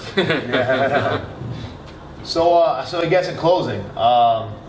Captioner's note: laughter